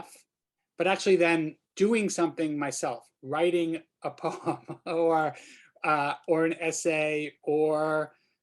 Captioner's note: laughter